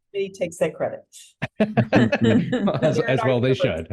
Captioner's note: laugh